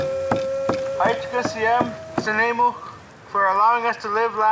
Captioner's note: speaking in foreign language